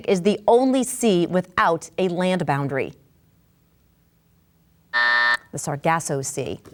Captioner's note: bell buzzes